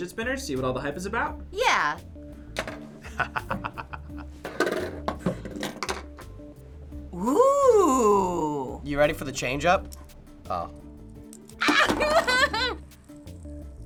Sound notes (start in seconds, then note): 3.0 chuckles; 11.6 chuckles